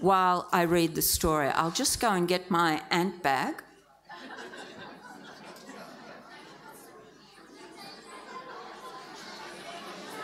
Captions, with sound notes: while I read the story. I'll just go and get my ant bag. (audience laughs) (audience chattering)